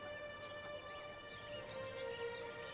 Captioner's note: birds chirping